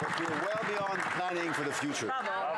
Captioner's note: some Applause